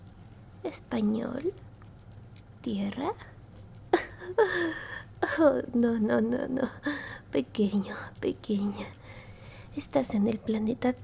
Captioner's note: laughs